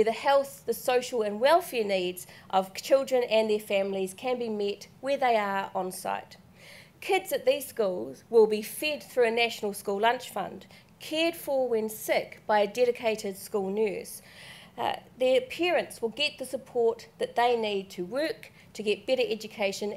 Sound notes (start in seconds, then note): none